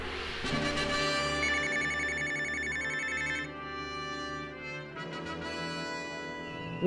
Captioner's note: a sound like a phone ringing